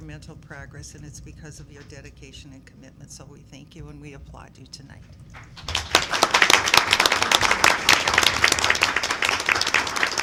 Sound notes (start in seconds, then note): 5.3 clapping